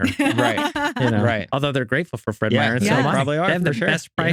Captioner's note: laughing